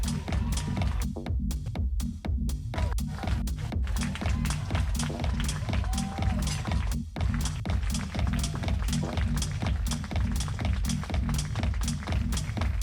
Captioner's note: applause